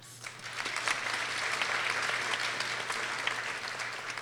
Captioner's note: people applauding